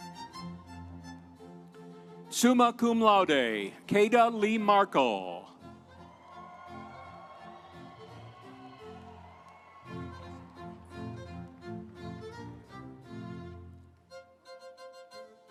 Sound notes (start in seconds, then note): 5.8 audience cheering; 6.1 instrumental music